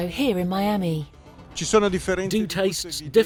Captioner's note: in foreign language